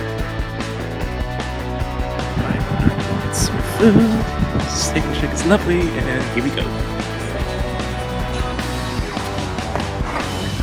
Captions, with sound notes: (wind blowing) Some food. Steak 'n Shake is lovely and here we go. (whispering)